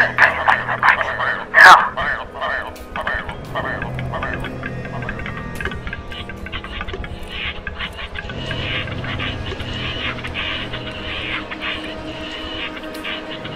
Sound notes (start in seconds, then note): 0.0 bird Sounds; 2.3 bird Sounds